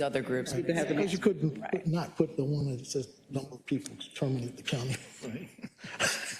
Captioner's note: laugh